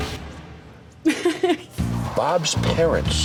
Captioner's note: laughing